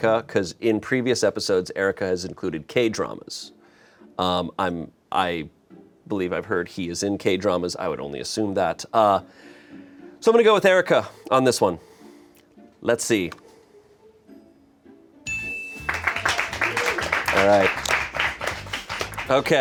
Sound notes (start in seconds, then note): 15.2 bell chimes; 15.8 crew applauds